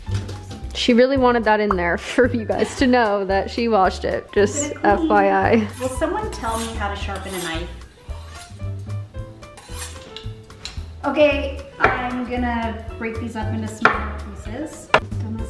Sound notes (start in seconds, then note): 7.8 knife scraping sharpener